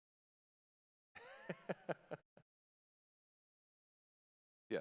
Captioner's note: laughing